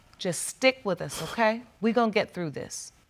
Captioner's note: exhales sharply